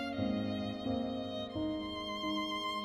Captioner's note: none